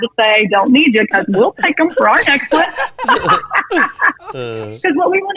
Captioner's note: laughing